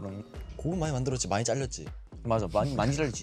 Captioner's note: laughs